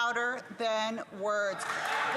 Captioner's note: some Applause